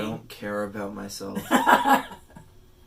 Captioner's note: laughs